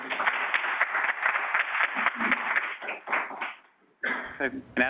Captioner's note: audience applauding